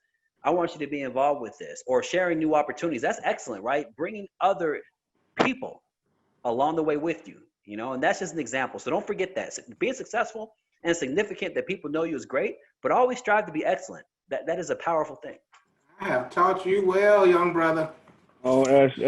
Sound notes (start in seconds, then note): 14.7 laughs